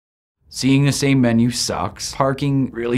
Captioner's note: voiceover